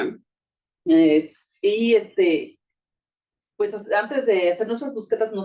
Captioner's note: speaking Spanish